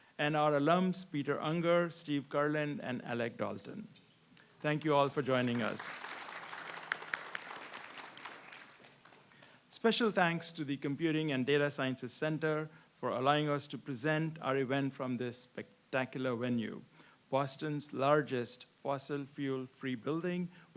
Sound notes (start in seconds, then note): 5.3 audience applauds